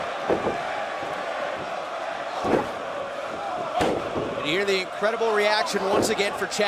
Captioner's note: crowd cheering